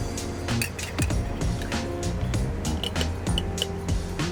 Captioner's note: spoon tapping